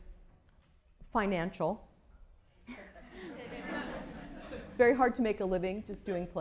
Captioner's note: laughter